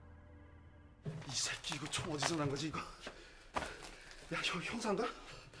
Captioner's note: foreign language